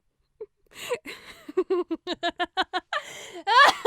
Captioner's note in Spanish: riendo; la risa se intensifica